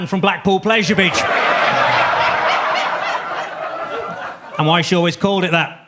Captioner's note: audience laughs